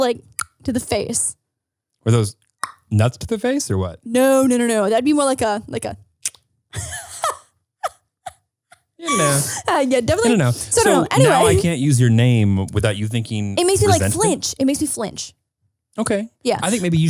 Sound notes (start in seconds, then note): 0.8 clicks; 6.2 clicks; 6.7 laughs